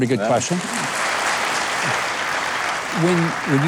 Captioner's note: audience applauding